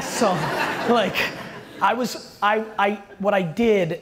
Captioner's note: audience laughter